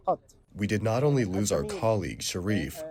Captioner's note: through translator